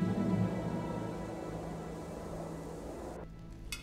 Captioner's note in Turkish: Rüzgâr sesi